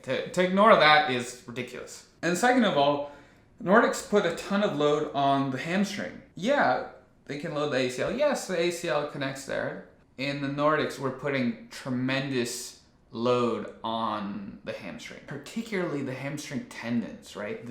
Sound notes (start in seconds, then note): none